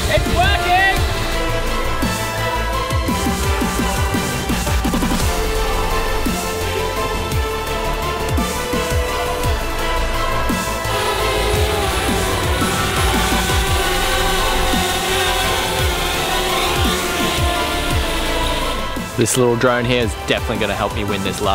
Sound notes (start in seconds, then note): 1.6 adventurous music; 11.3 drone humming